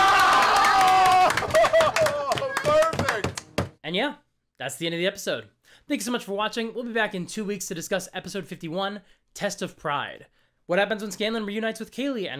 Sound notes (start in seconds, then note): 2.7 yelling